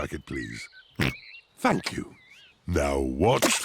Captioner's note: oinks